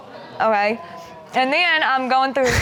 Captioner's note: crowd gasping